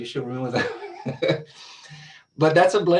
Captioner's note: laughs